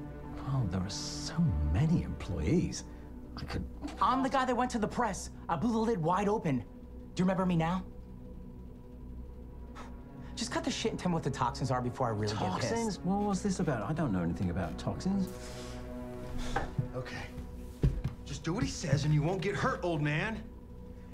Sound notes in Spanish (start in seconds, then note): 9.6 Se burla; 16.2 Respira profundamente